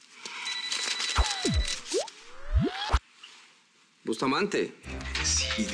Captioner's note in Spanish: Suena el celular